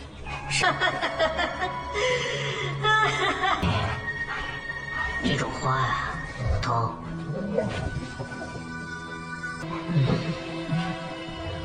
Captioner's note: laugh